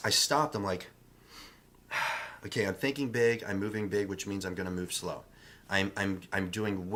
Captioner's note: breathes